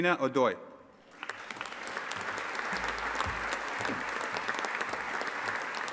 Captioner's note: audience applauding